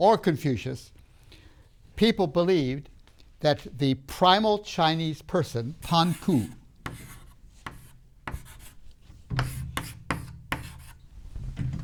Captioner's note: chalk sounds